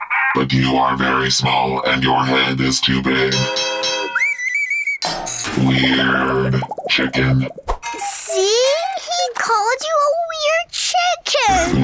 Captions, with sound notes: but you are very small, and your head is too big. [mad chirping] Weird chicken. See, he called you a weird chicken.